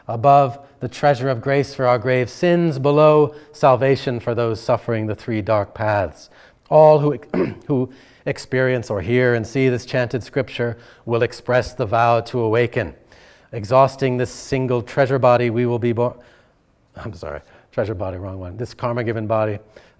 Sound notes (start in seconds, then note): 7.3 clears throat